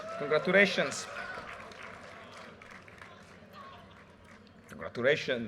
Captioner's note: audience cheers and applause